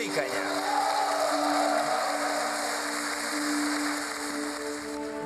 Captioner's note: speaking foreign language; audience cheering